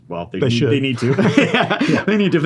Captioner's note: laughs